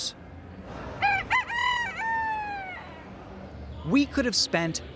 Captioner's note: rooster crowing